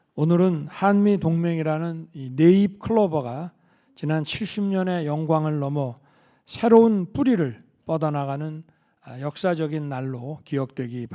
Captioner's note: speaking Korean